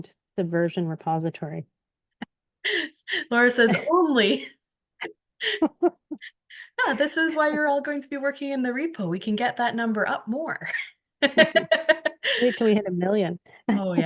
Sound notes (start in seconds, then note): 5.4 laughter; 11.2 laughs